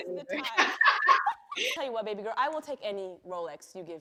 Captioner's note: laughs; laughter